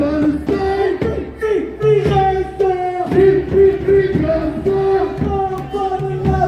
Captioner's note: chant